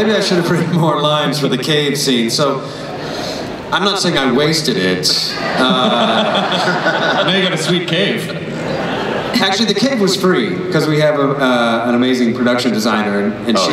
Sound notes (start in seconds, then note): 5.3 laughs